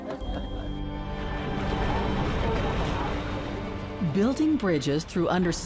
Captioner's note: laughs; water splashing